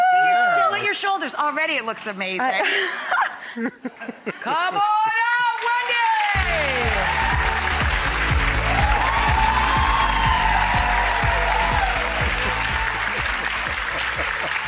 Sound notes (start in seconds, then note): 4.7 yelling; 6.4 audience cheers